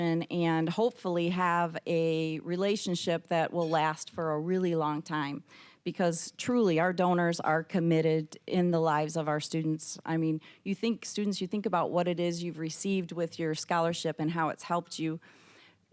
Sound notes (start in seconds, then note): none